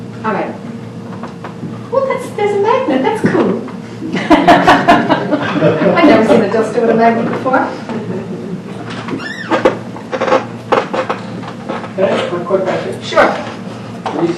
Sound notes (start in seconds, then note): 4.1 audience laughing